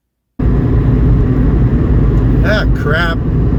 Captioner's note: road noise